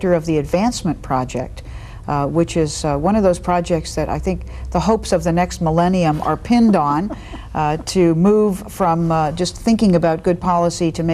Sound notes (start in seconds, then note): 6.2 chuckling